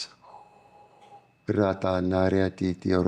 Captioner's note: non-english speech